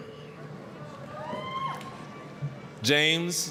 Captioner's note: applause, cheering